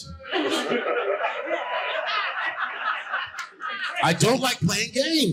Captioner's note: audience laughing